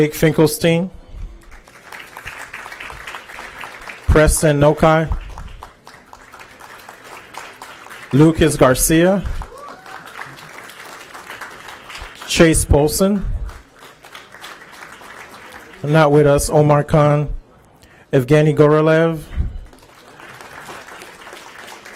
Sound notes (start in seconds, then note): 10.5 applause; 16.1 applause